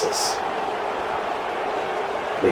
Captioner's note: crowd Noises